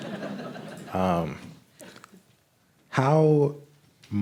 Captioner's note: crowd laughs